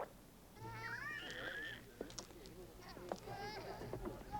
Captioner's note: people chattering